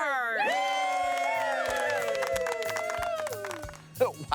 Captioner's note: cheering